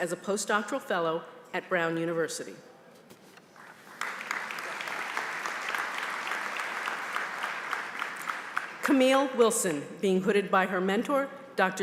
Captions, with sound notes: post-doctoral fellow at Brown University. >>:[(APPLAUSE)] >>:Camille Wilson, being hooded by her mentor, Dr.